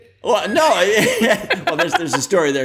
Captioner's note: laughter